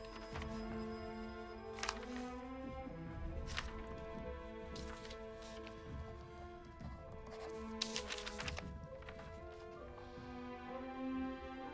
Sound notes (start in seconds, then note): 0.0 telephone rings in distance; 2.5 papers rustle; 7.2 pen scratching, paper rustling